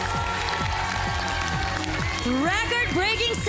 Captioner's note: loud cheering, applause